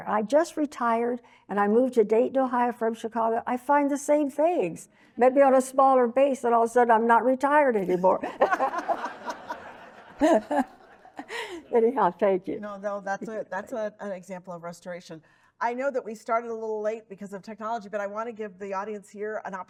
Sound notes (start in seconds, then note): 8.2 audience laughing